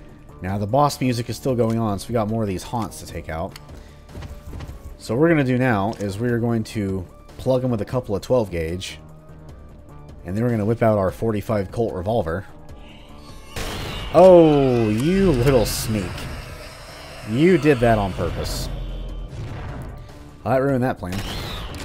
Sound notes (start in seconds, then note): none